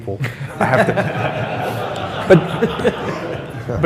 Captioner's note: laughs